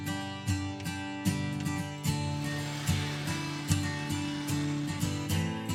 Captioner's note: auger drilling